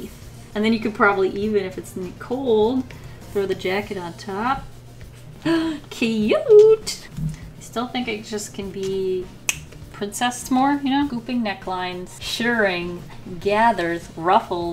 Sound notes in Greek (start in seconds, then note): 5.2 Κοφτή ανάσα; 9.3 Κλικ